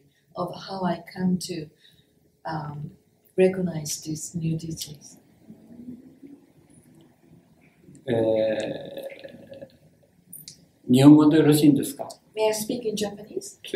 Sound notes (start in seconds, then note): 8.2 speaks Japanese